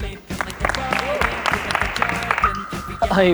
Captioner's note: clapping